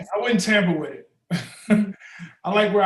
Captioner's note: Ta-Nehisi chuckles